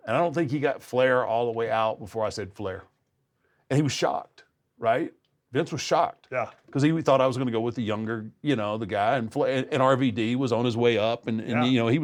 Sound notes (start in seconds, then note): none